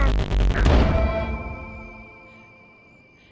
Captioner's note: gunshot